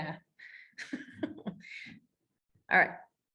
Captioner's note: laughing